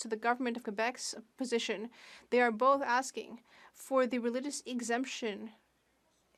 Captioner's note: speaking French